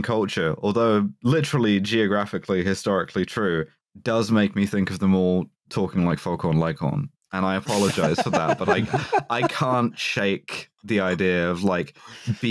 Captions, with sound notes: culture -- although literally, geographically historically true -- does make me think of them all talking like Foghorn Leghorn. And I apologize for that, but like, [laughter] I can't shake the idea of like, [laughter]